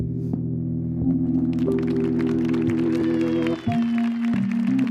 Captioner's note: apprehensive music; audience applauding